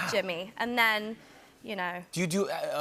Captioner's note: normal voice